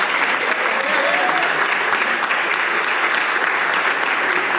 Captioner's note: applause